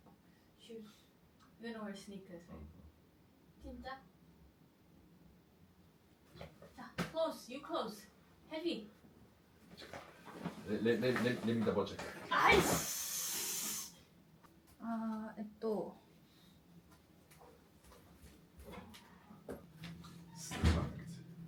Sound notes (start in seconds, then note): 12.2 cursing